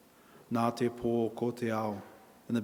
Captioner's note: in Maori